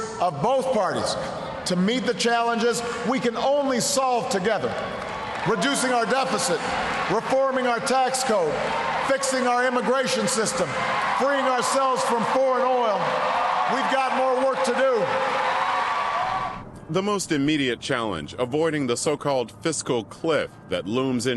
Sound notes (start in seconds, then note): 11.5 cheering and applause